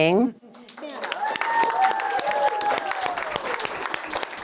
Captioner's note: audience applauds